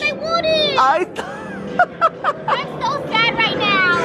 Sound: laughs

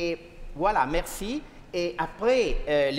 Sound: speaking french

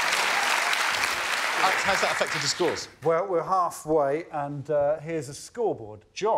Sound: applause

